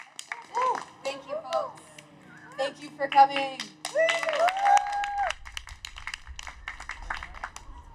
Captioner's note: cheers; cheers